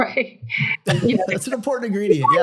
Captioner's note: laughing